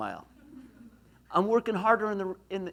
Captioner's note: laughs